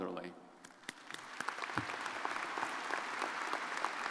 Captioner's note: crowd applauding